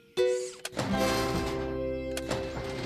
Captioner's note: click!